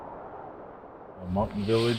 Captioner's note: wind sounds